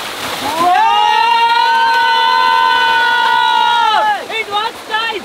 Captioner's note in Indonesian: Teriakan